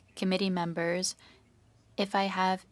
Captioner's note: speaking French